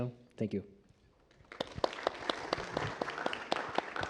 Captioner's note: applause